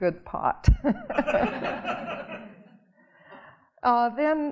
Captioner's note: audience laughing